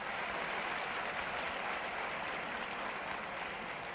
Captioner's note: clapping